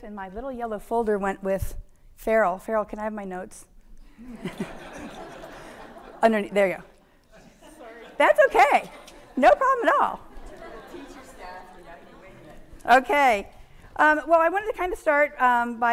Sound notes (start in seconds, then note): 4.2 audience laughing; 10.6 audience laughing